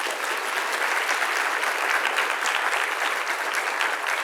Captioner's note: audience applauds